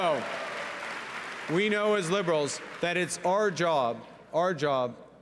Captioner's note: cheering